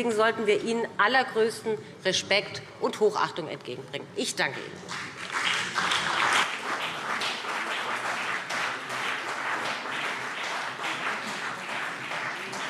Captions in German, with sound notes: Deswegen sollten wir alle ihnen allergrößten Respekt und Hochachtung entgegenbringen. - Ich danke Ihnen. [Beifall BÜNDNIS 90/DIE GRÜNEN und CDU]